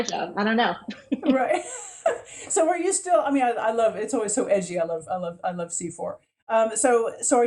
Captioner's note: laughs